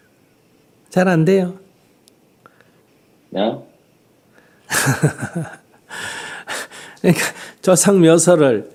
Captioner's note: Sunim Laughter